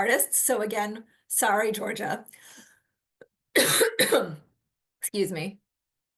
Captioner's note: coughs